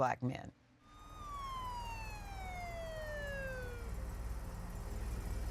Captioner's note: police car siren